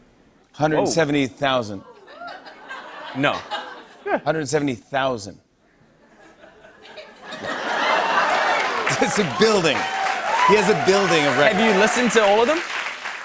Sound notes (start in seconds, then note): 1.8 laughter; 6.4 laughter and applause